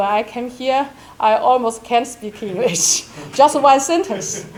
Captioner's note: chuckles